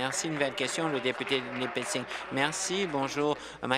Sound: applause

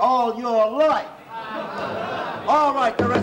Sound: commotion

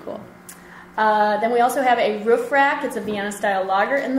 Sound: voiceover

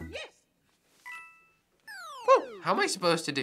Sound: chime, bloop

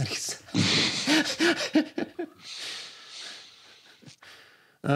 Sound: laughs

